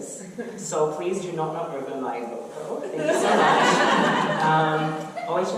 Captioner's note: audience laughter